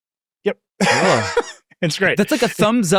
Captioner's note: laughing